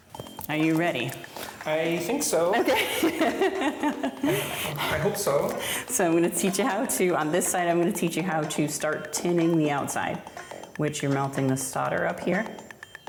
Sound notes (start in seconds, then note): 2.3 chuckles; 5.4 energetic music